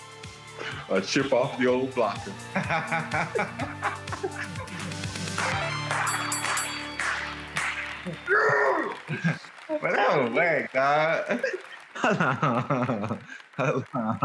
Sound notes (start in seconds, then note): 2.0 both laughing; 5.4 video game beep; 5.8 bell dinging; 7.4 clapping; 8.4 growls; 11.1 both laughing